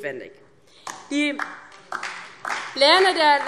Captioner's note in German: Beifall DIE LINKE